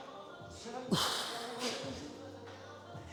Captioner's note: breathes heavily